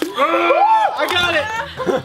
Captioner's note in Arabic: يصرخ